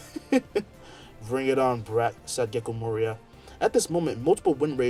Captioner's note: laughs